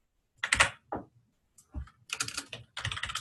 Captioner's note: typing